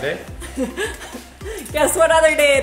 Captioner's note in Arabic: يضحك